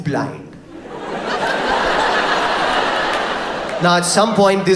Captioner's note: audience laughs